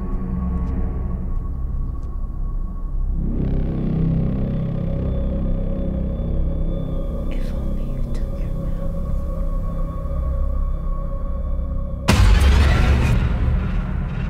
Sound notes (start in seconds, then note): 3.3 jarring Rumble; 7.2 whispering